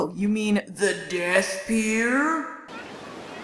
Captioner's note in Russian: жутким голосом